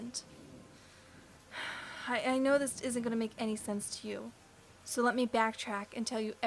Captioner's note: sigh